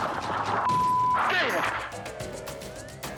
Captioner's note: dramatic air whoosh; beep; suspenseful music; sirens blaring